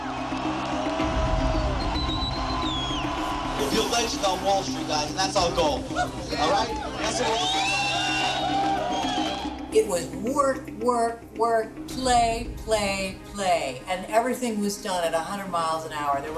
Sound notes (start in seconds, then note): 0.0 crowd clamoring; 1.6 man whistling; 7.5 crowd cheering